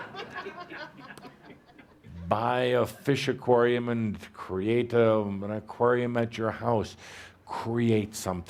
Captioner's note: laughter